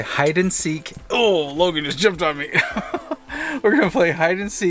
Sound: laughs

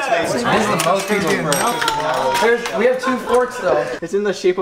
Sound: laughing like crazy

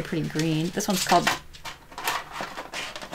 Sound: dog scuffles again

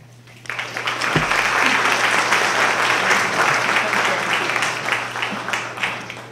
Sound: applause

